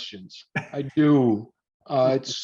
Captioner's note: laughing